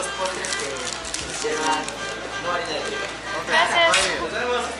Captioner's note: speaking Spanish